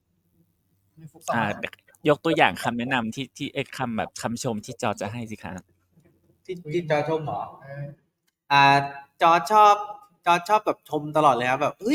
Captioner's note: in Thai